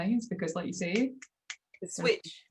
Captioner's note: fingers clicking